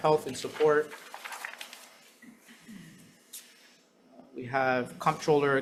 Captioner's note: paper rustling